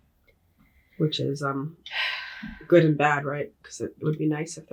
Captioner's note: sighing